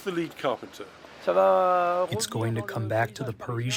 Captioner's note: through translator